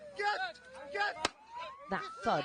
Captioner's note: gunshot